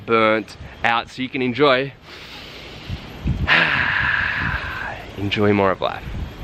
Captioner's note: inhaling deeply